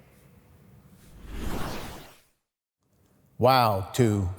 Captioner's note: whooshing sound effect